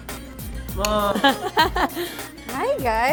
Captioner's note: laughs